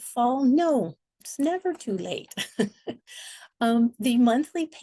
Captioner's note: chuckles